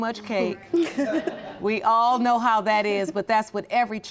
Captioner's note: laughing